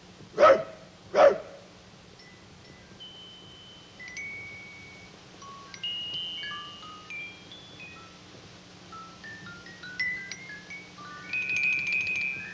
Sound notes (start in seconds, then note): 0.3 barking; 2.6 bell tinkling